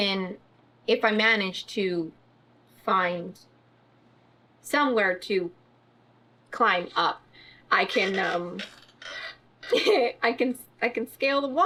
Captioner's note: laughs